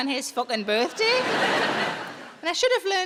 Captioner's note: audience laughing